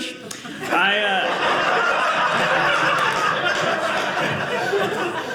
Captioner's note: audience laughing